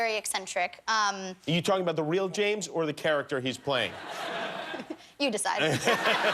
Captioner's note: laughter